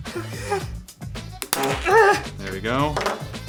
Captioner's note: grunts and farts